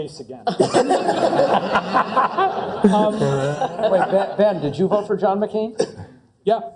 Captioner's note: laugh